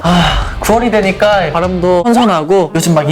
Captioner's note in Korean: 하아